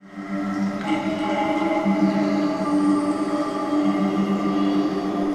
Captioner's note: water dripping; pensive music